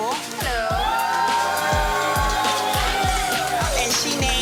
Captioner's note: crowd cheering